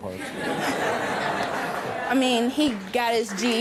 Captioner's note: audience laughs